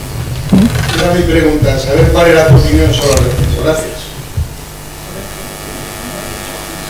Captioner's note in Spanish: Voz fuera de micrófono